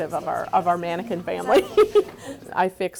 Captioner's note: laughing